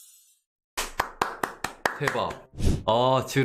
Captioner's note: claps